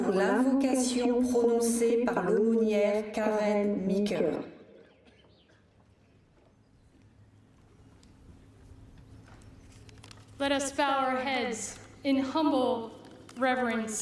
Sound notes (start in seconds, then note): 2.8 speaking french